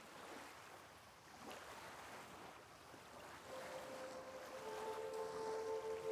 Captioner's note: peaceful music; waves splash